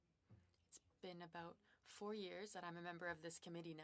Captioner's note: speaking French